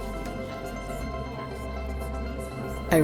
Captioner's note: whispers continue